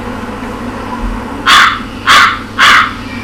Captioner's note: bird cawing